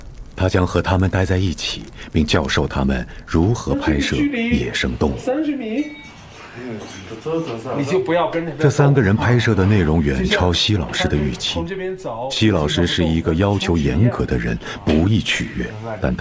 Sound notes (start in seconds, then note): none